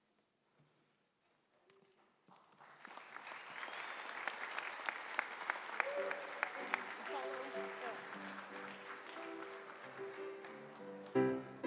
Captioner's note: applause